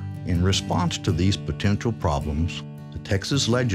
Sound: voiceover

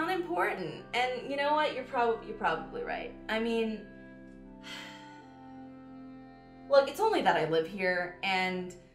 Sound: sigh

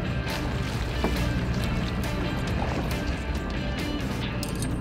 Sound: fish splashing water

